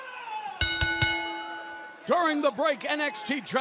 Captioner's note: bell ringing